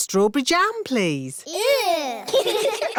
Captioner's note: giggling